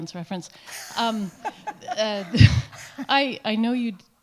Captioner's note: laughs